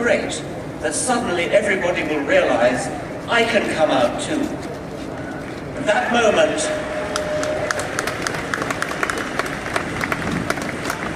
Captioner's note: applause